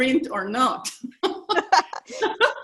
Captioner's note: laughter